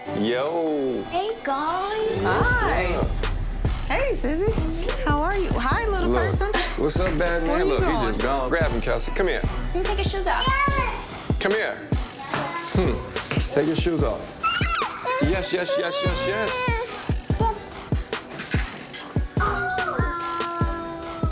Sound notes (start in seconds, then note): 10.9 exclaims; 14.4 exclaims; 17.6 playfully cooing